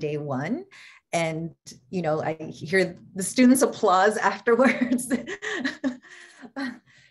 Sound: laughter

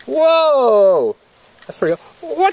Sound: voiceover

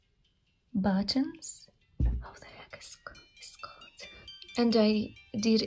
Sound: angry whispering

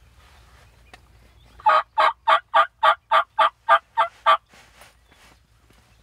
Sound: mouth calling yelps

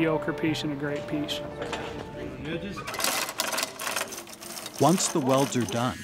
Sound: chain hoist rattling

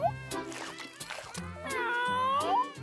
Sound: meowing

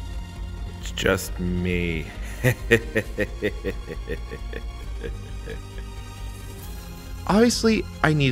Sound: evil laughter

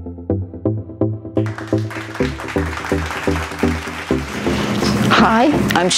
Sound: audience clapping

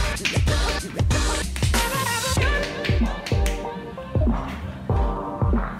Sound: hands Clapping

